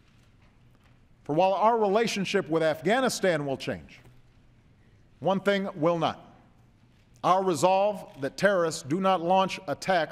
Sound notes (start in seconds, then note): none